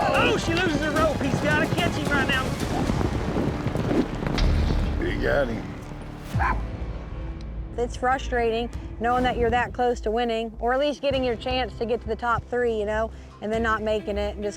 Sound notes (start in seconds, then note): 2.8 galloping horses; 6.3 yips